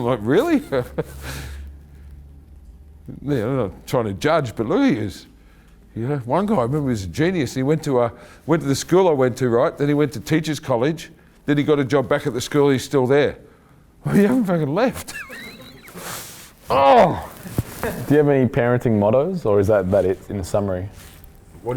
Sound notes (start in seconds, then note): 0.4 chuckling; 14.9 laughing; 16.6 exclaiming